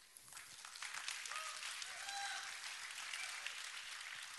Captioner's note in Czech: potlesk